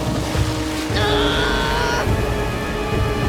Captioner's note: grunting